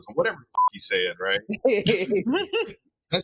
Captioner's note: laughing